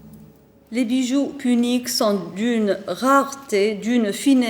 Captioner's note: speaking French